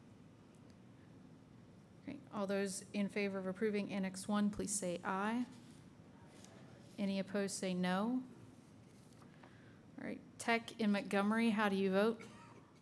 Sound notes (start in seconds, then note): 0.1 silence; 9.0 silence